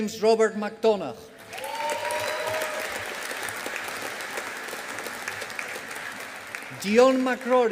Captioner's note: audience applauding